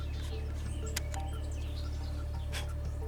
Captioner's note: blowing